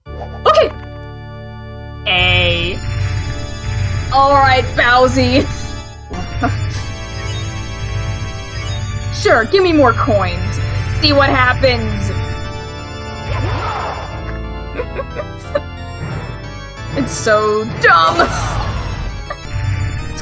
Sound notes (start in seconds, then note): 14.7 snickering; 18.8 laughs